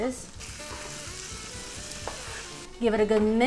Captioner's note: mixture sizzling